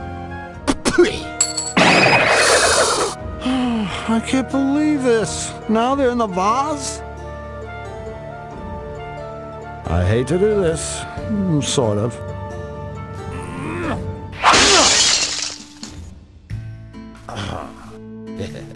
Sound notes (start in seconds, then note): 0.6 plant spits glasses; 14.4 vase breaks; 18.3 he laughs